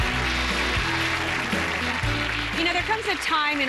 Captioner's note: cheers and applause